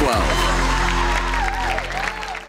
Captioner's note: audience applauding